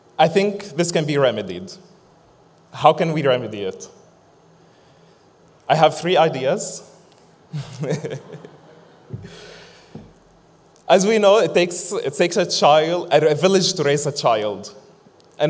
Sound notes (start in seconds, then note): 7.6 laughs; 7.8 audience laughs